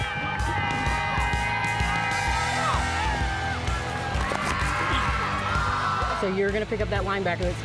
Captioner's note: crowd hollering